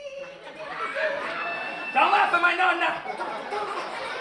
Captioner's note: laughter